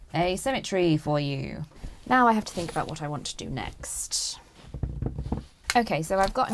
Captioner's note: drums fingers on table